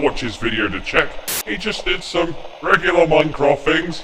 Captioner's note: TV static